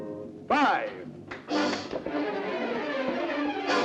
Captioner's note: crashes